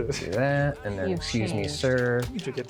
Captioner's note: pat